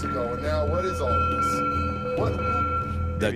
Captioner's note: bell clanging